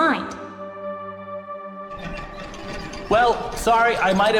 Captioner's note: mechanism noises